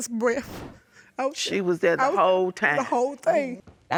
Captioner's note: trembling